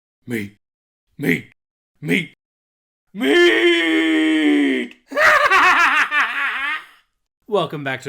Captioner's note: freakish cackling